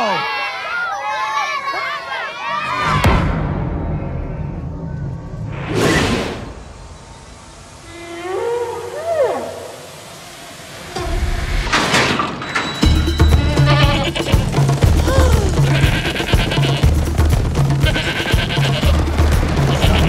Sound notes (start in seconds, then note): 0.0 cheering; 2.5 dramatic music plays; 13.4 gasps; 14.8 goats bleating